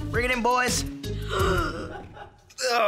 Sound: gasping

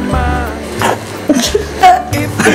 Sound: cough

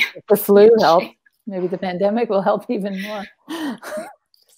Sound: chuckles

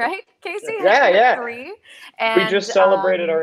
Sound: laughs

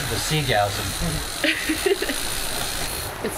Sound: laughing

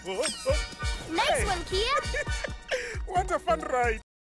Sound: chuckles

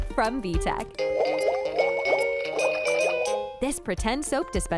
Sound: bright music; bubbles popping

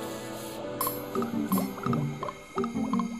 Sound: bubbles popping

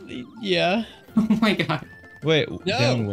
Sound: giggling

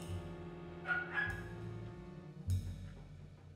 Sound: barking

